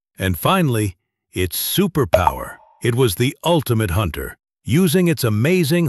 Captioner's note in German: Klingeln